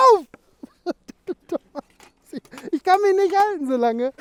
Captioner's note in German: Lachen